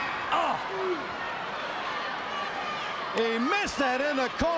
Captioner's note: crowd cheering